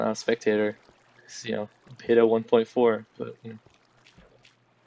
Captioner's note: laughs